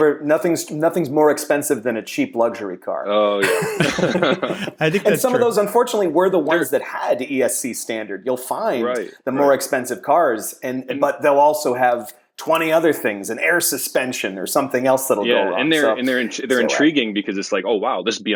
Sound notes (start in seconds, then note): 3.4 laughter